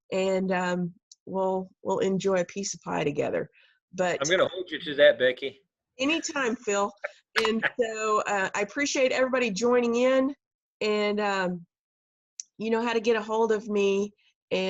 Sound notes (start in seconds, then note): 6.9 laughing; 7.4 keyboard clicking